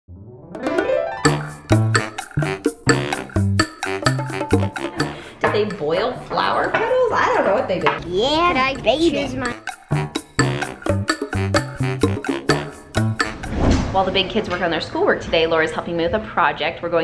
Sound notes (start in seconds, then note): 0.1 energetic music; 5.6 laughs; 9.7 energetic music